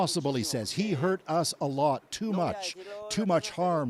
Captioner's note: speaking alternate language